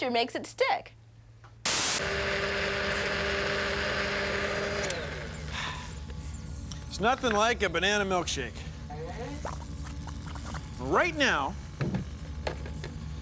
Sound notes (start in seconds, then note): 1.7 whirring; 4.9 whirring stops